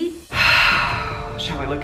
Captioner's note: deep sigh